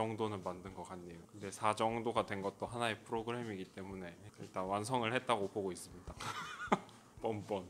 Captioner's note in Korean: 웃음